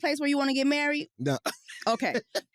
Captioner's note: chuckles